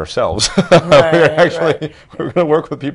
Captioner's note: laughter